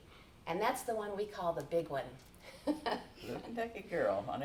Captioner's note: chuckles